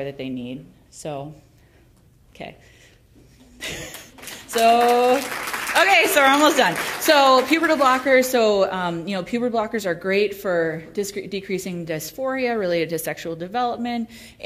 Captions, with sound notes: that they need. So, okay. (laughs) (applause) Okay, so we're almost done. So pubertal blockers. So pubertal blockers are great for decreasing dysphoria related to sexual development